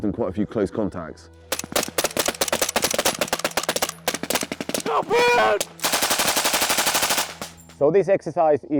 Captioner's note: sounds of gunfire